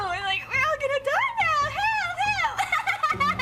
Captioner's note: imitates again; Izzy Laughs